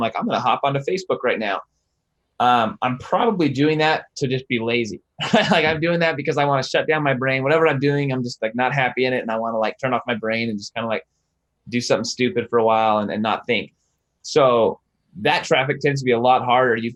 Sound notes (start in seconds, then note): 5.2 laughs